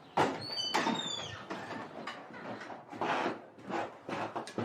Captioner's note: door squeaking